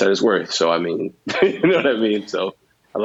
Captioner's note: laughs